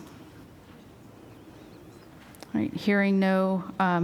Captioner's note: silence